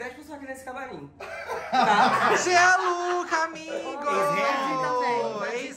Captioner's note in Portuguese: risos